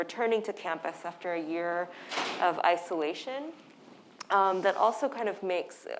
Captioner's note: door slamming